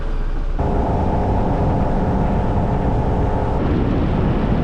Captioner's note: engine sound